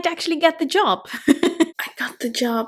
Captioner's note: chuckles